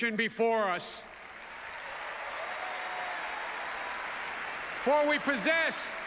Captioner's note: applause